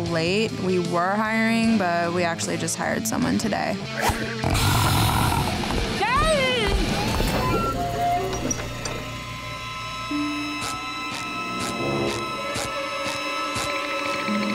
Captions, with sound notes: We were hiring, but we actually just hired someone today. [growling]